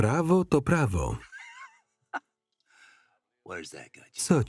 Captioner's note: Joe laughing